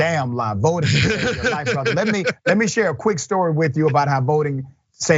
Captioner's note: laugh